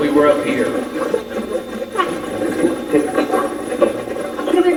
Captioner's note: Steve's Box chatters